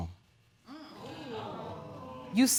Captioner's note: audience gasping